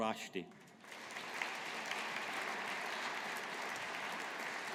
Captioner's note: audience applauding